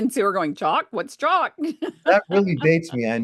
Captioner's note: laughs